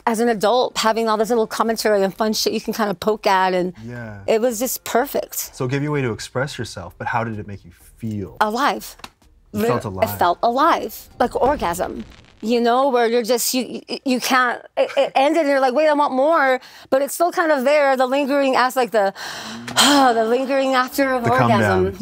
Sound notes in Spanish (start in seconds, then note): 19.1 exhala